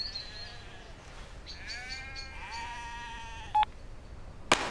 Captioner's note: sheep bleating